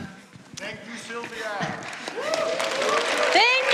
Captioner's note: applause